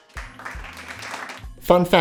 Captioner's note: audience applauding